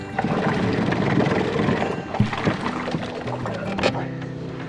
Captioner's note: boat engine roaring